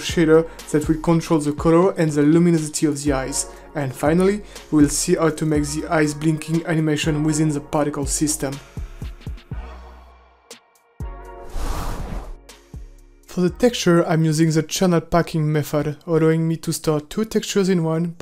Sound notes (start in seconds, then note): 8.5 calm techno music; 11.4 air whooshes